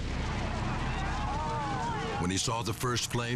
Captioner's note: people shouting